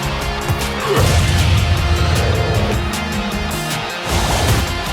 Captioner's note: ball whooshing